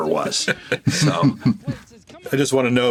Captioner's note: all chuckle